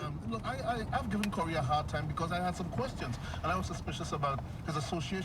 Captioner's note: man on radio